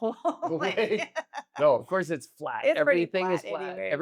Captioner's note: laugh